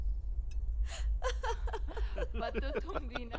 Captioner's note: All laughing